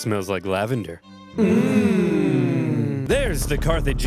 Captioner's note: Carthaginian soldiers hum